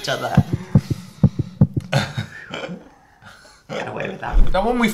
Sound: heart beating

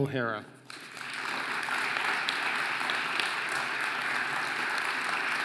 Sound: audience applauding

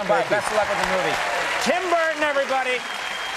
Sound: audience applauding

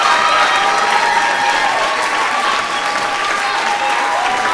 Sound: audience clapping

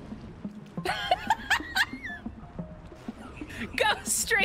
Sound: laughter

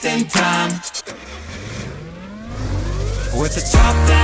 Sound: car engine revving

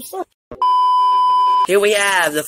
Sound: TV Beep

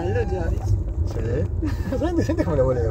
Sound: Joice cries

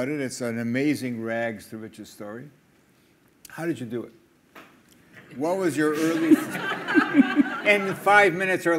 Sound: crowd Laughs

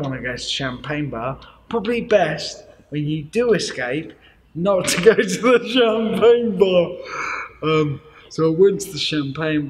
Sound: laughs

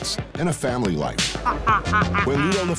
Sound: cackling

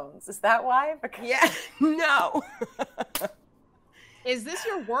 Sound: players laughing

